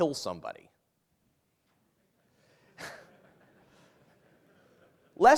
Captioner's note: laughter